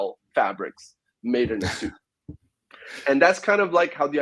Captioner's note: chuckles